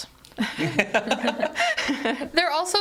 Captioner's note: all laughing